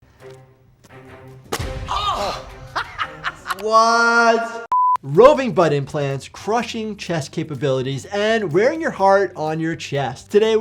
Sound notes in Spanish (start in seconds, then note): 0.3 el hombre grita; 0.9 música dramática